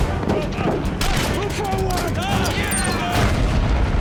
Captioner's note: shouting